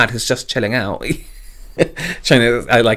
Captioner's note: laughs